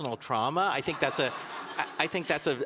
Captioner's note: audience laughing